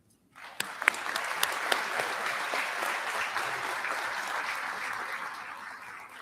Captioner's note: applause